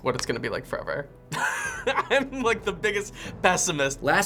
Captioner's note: laughing